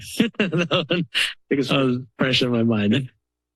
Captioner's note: laughter